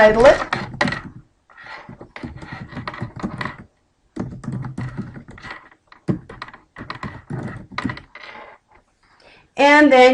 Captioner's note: typing